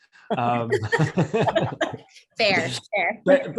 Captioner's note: laughing